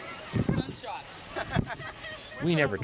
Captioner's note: laughter